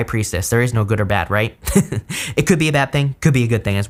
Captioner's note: giggles